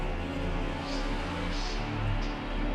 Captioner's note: eerie whispering